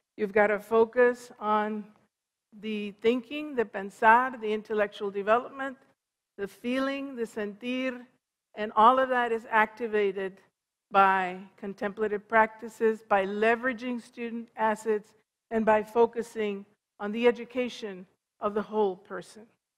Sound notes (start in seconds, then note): 8.4 foreign language